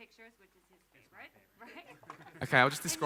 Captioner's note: laughs